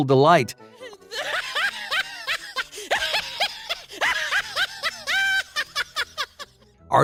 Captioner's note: laughter sound